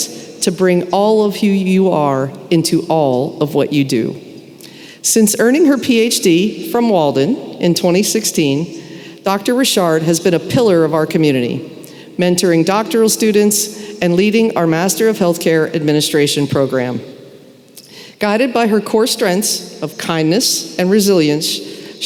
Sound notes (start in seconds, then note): none